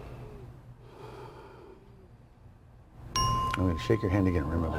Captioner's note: exhaling